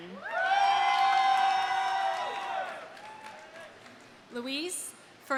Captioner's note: audience cheering; audience applauding